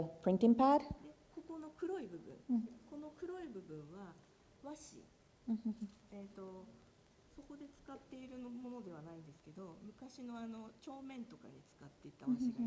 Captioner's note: speaking japanese